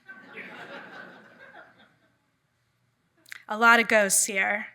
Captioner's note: audience laughing